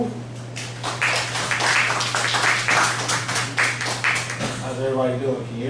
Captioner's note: applause